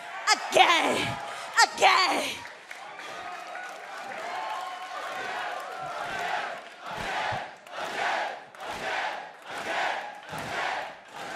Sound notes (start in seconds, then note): 3.8 cheers and applause; 5.8 fans chanting